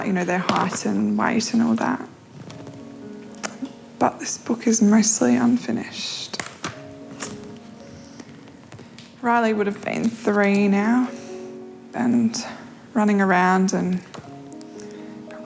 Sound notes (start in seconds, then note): 7.2 tuts